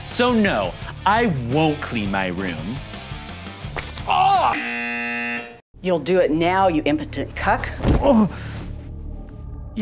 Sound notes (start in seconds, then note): 4.0 screams; 4.5 buzzer buzzes; 7.9 groans; 8.0 ominous music